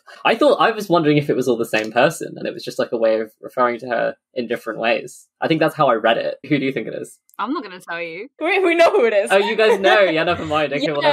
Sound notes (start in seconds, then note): 8.4 laughing